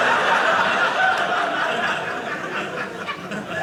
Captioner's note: audience laughing